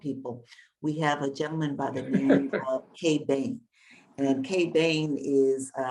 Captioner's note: Bob laughing